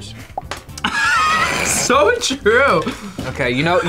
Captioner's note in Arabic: يضحك